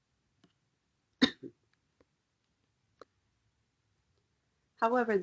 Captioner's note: coughing